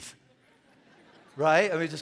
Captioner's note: congregation laughing